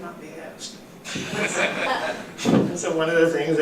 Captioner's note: laughter